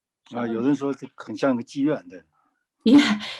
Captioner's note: speaking in foreign language